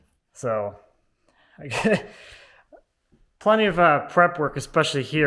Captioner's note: laughs